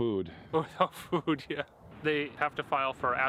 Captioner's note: Gülme